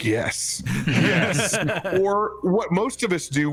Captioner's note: actors knowing laugh